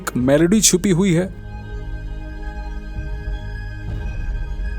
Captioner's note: speaking in foreign language